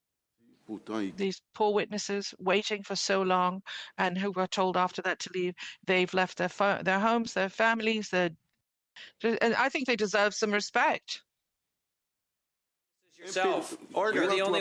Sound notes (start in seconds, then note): 1.6 speaking French